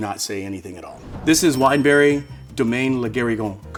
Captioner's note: bell dinging